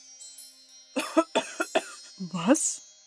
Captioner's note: coughs